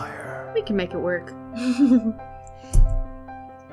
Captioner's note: laughter